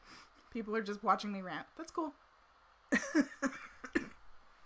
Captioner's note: laughs